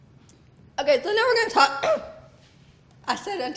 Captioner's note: coughs